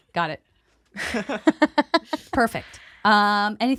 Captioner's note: laughter